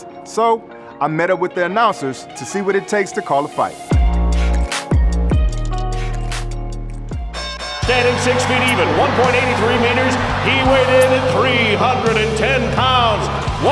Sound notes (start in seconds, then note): 4.0 upbeat R&B music; 7.4 bell dinging; 7.8 audience cheering